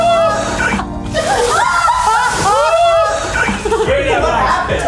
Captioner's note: water splashing; all laughing; sighs of relief